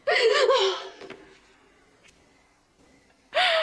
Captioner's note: sobbing